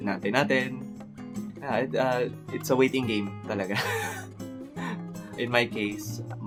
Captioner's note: chuckles